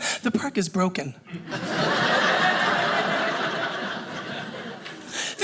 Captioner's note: audience laughing